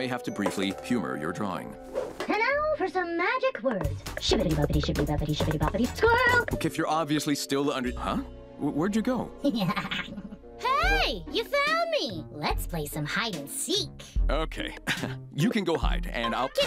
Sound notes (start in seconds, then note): 9.5 laughs